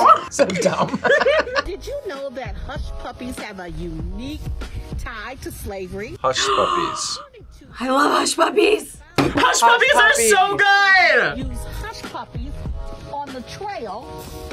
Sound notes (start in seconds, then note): 0.0 both laugh; 6.2 gasps